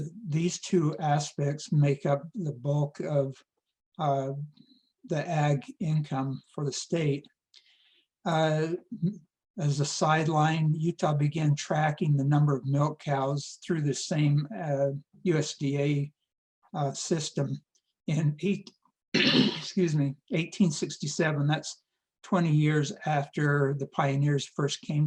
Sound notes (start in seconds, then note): 19.1 cough